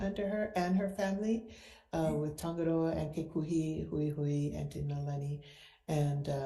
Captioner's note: speak foreign language